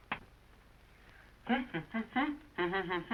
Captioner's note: humming